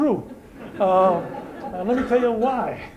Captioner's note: laughter